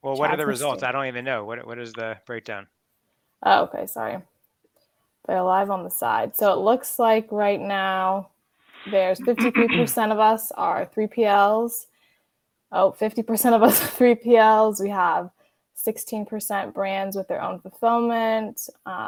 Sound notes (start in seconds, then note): 13.7 laughs